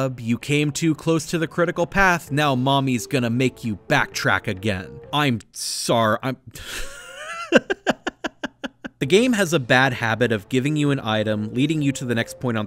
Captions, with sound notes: you came too close to the critical path, now mommy’s gonna make you backtrack again!” I’m sor- I'm- (breaks into laughter) The game has a bad habit of giving you an item, leading you to the next point on the